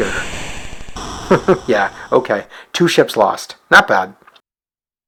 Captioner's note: chuckles